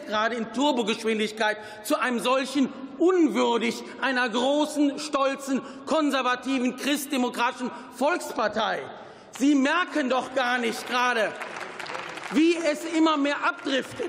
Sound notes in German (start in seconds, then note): 8.4 Beifall